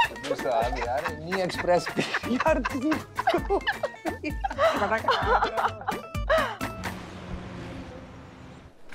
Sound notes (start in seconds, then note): 3.1 all giggling; 4.8 chattering